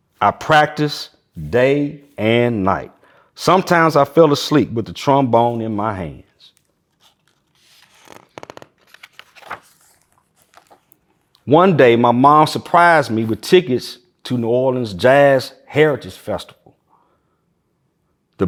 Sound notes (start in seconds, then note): 6.5 pages rustling